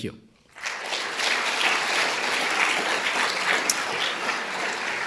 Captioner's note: audience applauding